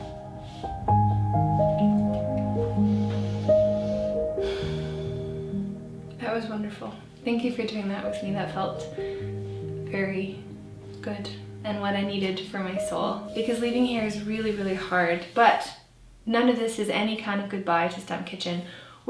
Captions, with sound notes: (deeply inhales and exhales) That was wonderful. Thank you for doing that with me, that felt very good and what I needed for my soul. Because leaving here is really, really hard. But none of this is any kind of goodbye to Stump Kitchen.